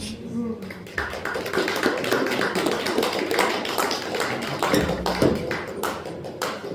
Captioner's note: applause